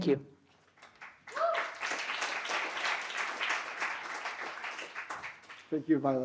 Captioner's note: applause